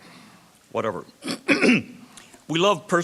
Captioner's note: clears throat